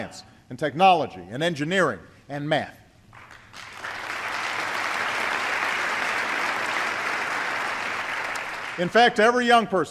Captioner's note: applause